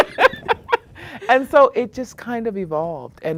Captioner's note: laughter